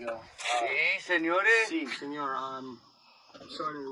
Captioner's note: foreign language